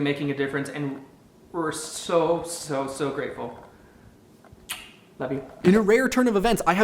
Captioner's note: blows kiss